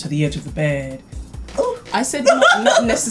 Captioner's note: laughs